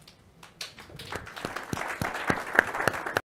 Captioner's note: audience applauds